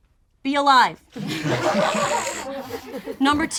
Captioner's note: group laughs